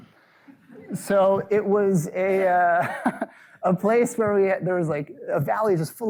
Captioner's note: laughs